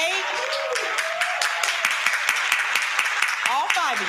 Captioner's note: crowd clapping